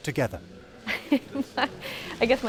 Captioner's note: laughing